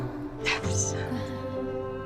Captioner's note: whispers; song ends